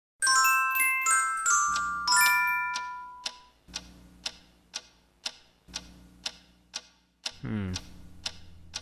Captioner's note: tick tock